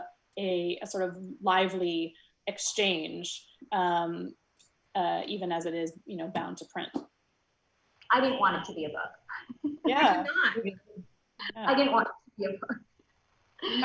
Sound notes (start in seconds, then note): 9.5 soft laughs